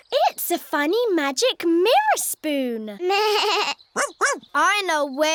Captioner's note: bleats